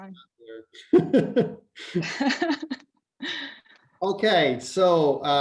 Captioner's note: laughs